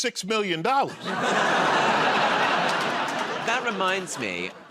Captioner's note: laughter